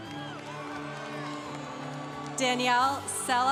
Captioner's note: congregation cheering